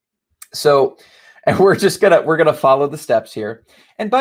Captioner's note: laughing warmly